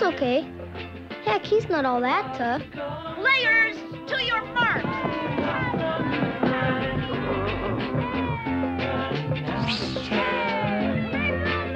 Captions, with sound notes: Heck, he's not all that tough. - Players, to your mark. (kids cheering) (growling) (swishing) (kids cheering)